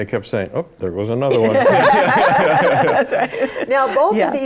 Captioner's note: laughter